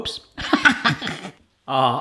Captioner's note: laughs